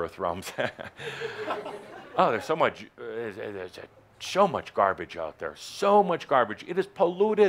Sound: Adamus chuckles

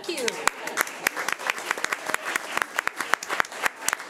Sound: everyone applauding

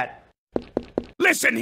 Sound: footsteps

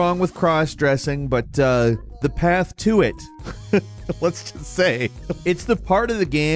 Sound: laughing

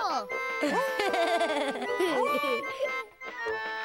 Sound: giggles

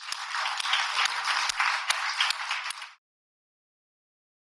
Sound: audience applauds

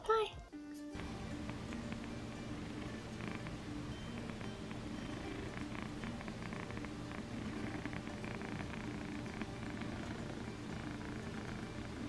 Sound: rattling cat purrs and soft electronic music

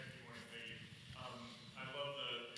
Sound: speaks faintly

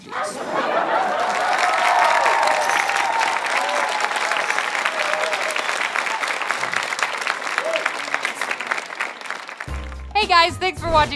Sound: applause

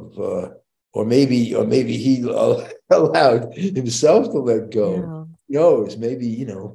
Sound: chuckles

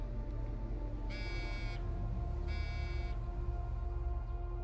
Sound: phone buzzing

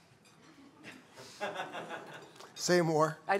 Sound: laughter

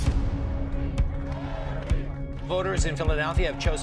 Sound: crowd chanting

